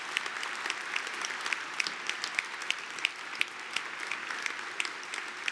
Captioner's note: applause